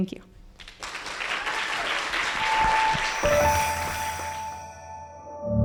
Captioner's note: applause